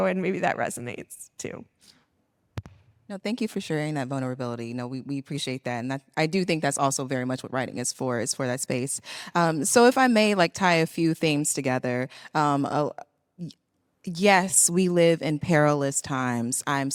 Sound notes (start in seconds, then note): none